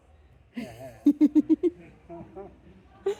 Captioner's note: giggling